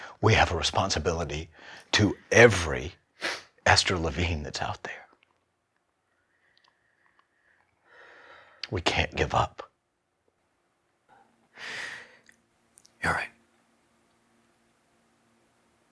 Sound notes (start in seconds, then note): none